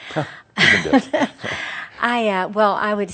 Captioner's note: they chuckle